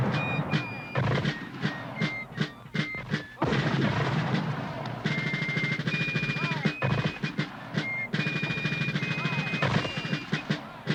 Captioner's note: mortar fire booming